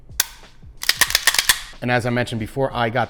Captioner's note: slide clicking